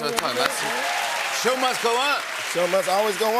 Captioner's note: cheers and applause